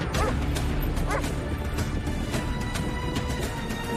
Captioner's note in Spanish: Ladridos